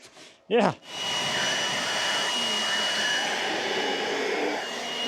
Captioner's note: blower whooshes